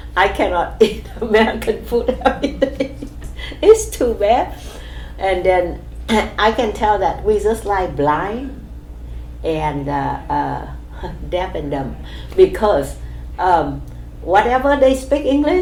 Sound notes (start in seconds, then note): 0.8 laughs